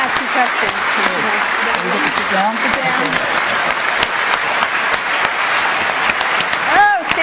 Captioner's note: applause